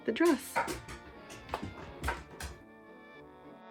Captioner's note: louder Dog Tippy Taps